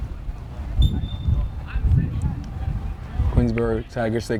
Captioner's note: whistle tweeting